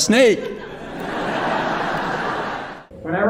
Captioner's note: laughter